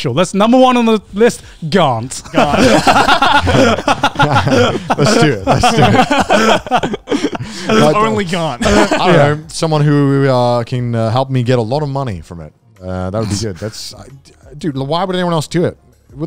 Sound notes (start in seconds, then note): 2.3 all laugh